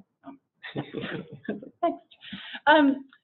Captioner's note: all laugh